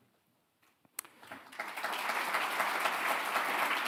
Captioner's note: applause